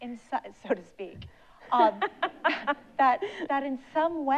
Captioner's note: laughs